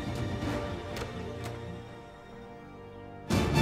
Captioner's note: sound of door opening